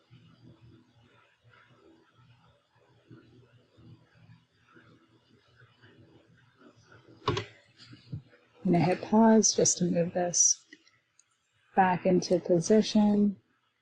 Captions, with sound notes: (keyboard clacking) I am gonna hit Pause just to move this back into position.